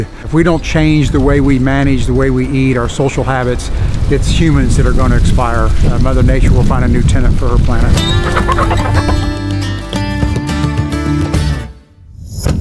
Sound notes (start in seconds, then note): 7.9 chicken clucking; 8.0 whimsical music